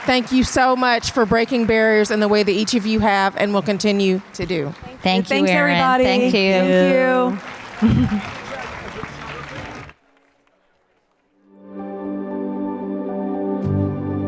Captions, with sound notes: thank you so much for breaking barriers in the way that each of you have and will continue to do. - Thank you. - Thanks you, Errin. - Thanks, everybody. Thank you. (audience applause) (gentle music)